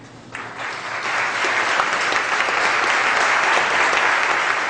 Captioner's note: audience claps